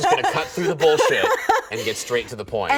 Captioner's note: laughing